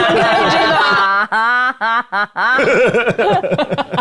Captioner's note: group laughing